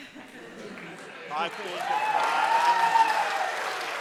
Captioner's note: audience applauding